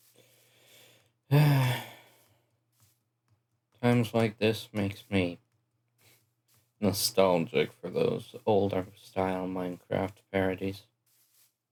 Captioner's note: sigh